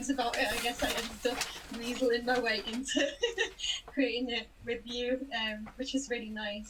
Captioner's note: laughs